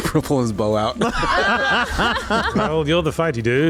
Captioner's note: laughter